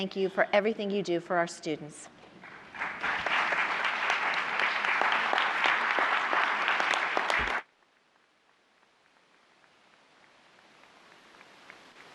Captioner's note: applause